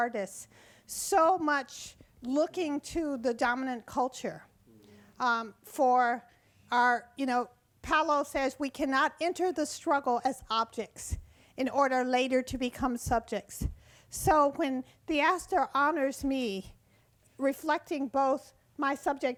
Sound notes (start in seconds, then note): none